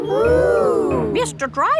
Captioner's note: kids gasps in awe